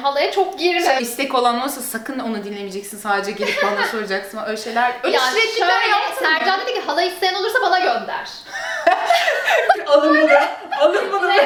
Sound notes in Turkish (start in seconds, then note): 8.4 gülüşmeler